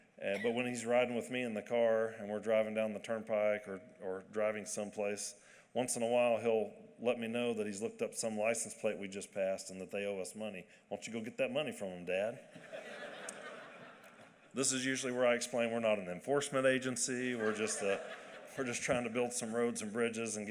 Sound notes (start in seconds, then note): 12.5 laughter